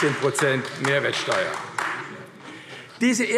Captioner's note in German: Beifall AfD